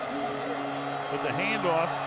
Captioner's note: horn blowing